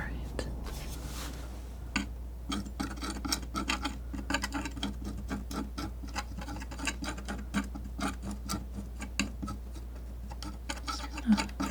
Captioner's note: tapping